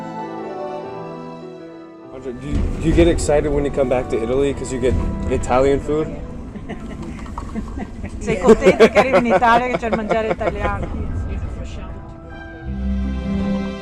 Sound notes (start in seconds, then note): 6.4 laughs; 8.8 speaking in foreign language